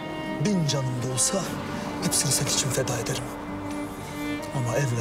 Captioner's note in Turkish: none